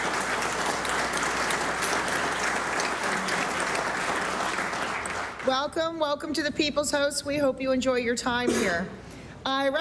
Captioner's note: applause